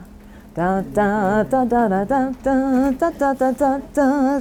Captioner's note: hums